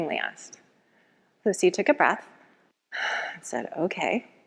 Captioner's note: exhales deeply